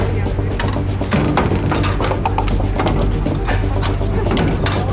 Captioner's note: latches clanging